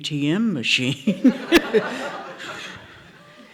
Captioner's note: laughter